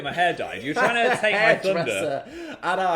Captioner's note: laughing